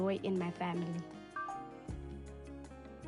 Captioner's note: phone dings